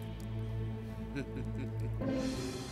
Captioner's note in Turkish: gülme sesi̇